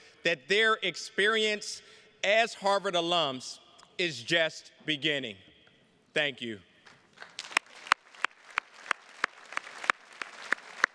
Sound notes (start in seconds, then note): 6.8 attendees clapping